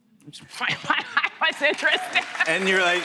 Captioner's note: laughing